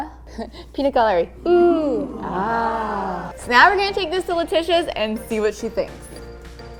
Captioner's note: ooh aah